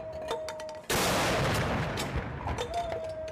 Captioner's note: gunshots